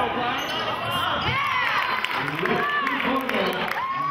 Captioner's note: cheering